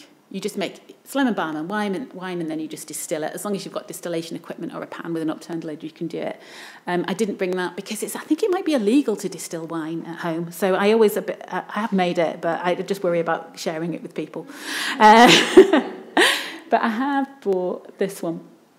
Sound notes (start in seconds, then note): 15.0 laughs